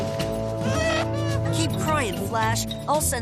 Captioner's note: crying